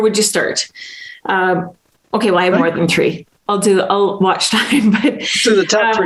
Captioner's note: laughs